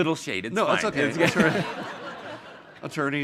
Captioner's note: audience laughing